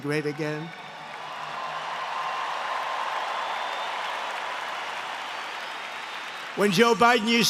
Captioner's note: applause